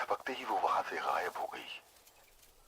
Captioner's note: radio